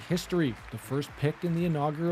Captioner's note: applause